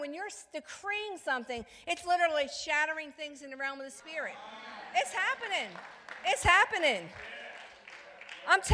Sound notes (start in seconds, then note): 4.1 congregants cheering; 7.0 congregants clapping